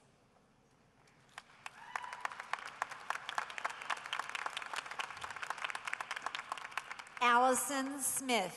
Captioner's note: applause